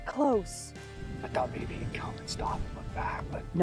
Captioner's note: whispering